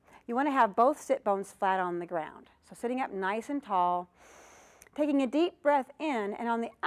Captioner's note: breath sound